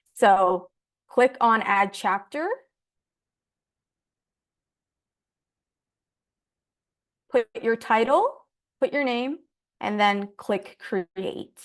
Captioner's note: silence